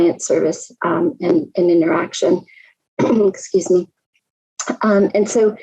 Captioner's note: coughs